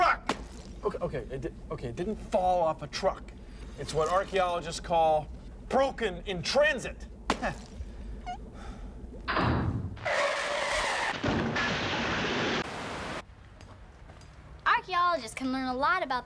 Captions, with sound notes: O-OKAY, IT DID... OKAY, IT DIDN'T FALL OFF A TRUCK. IT'S WHAT ARCHAEOLOGISTS CALL "BROKEN IN TRANSIT." ( chuckles ) ( sighs ) ( brakes squeal ) ( crash ) ARCHAEOLOGISTS CAN LEARN A LOT ABOUT THE PAST